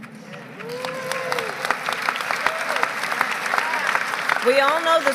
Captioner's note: applause